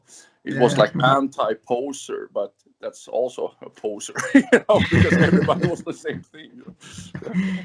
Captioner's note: laughs